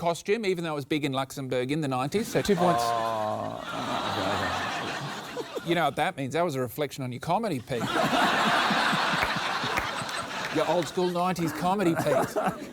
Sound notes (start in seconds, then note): 7.7 laughter